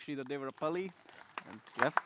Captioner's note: applause